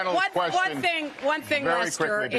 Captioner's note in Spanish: aplausos